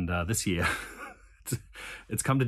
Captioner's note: laughing